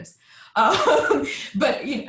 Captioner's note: laughing